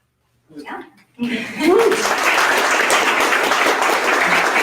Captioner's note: audience applause